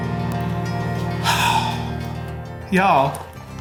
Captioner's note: sighing